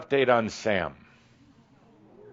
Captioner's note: audience responds “Ooh”